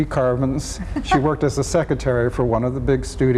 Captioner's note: laughs